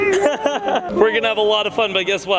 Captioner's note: everyone laugh